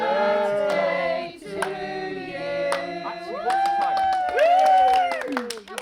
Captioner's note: whooping